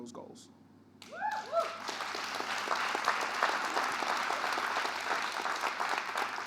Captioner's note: audience cheering and applauding